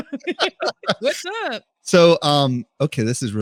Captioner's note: both laughing